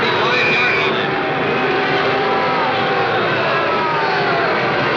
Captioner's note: crowd booing